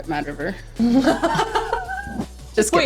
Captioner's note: laughing